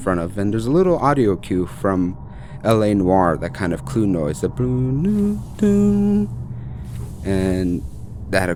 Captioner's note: humming E-F-A